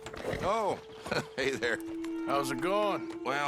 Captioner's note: laughs